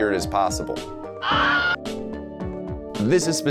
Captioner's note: Wilhelm scr